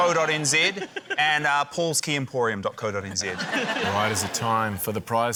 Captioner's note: laughter